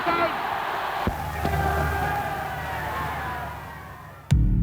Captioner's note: crowd cheers